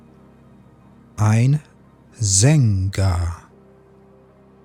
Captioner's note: german